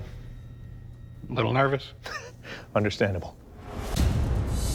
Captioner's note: chuckles